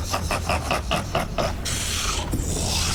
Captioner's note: snorts